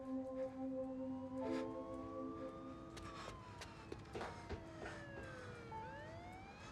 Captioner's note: melancholy piano music; distant siren wails